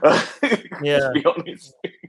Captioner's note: laughs